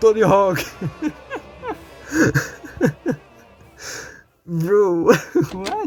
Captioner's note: losing his sides